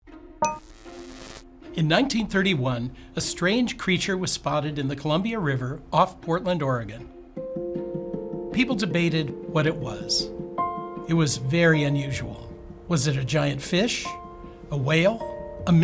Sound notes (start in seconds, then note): 0.6 electricity zapping; 1.1 gentle music